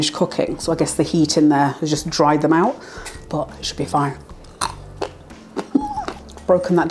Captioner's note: crunch crunch laugh